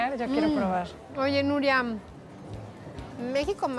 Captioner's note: speaking Spanish